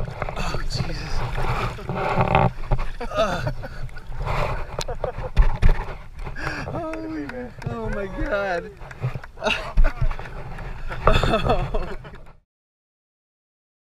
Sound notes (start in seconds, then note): 4.6 laughing